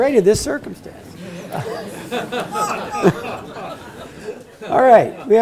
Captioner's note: laugh